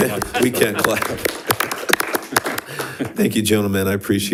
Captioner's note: all clapping